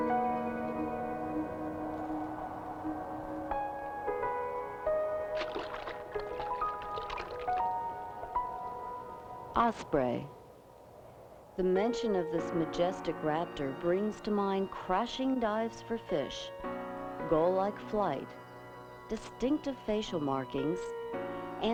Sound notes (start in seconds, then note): 5.2 water splashing; 5.5 light uplifting music